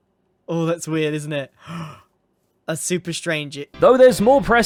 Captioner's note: gasp